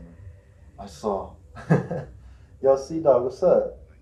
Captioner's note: laughs